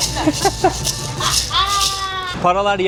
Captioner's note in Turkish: kahkaha